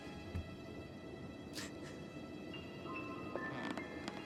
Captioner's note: crying